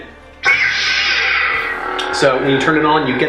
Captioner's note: electronic buzzing